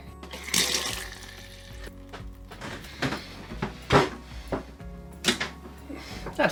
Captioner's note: mellow music; water splashing